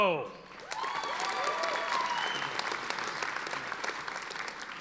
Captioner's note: audience applauding